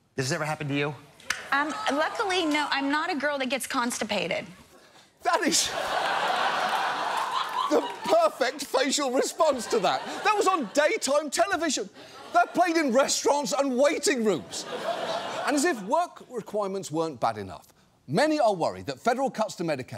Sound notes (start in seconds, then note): 5.7 audience laughing